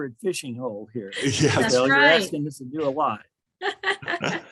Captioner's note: everyone laughs